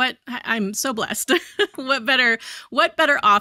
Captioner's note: chuckles